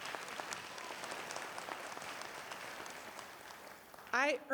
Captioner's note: applause